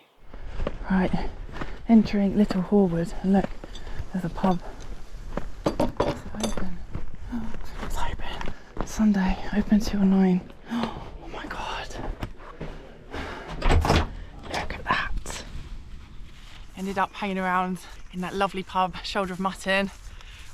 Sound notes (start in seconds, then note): 13.5 latch clinks